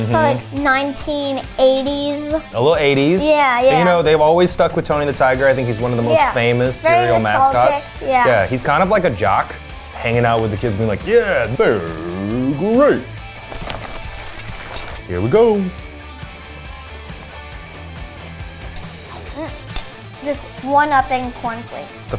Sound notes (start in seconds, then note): 13.4 cereal rustling; 16.0 upbeat rock music